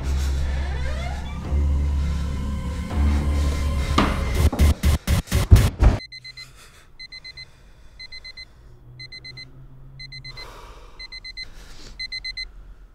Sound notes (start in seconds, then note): 0.0 Steve breathing heavily; 6.0 alarm clock beeping